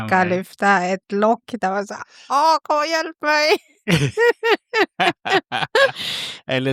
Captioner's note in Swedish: skratt